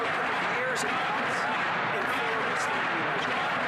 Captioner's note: chanting